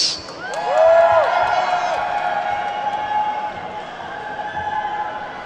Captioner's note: attendees whooping and clapping